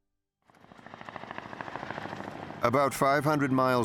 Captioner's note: plane engine roaring